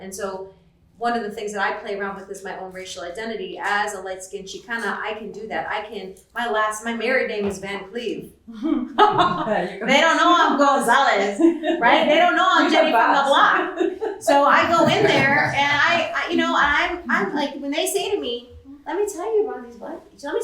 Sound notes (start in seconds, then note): 8.7 laughter